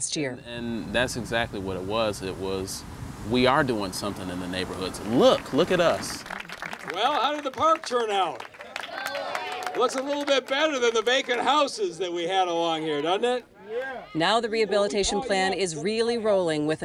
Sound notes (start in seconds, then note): 5.1 applause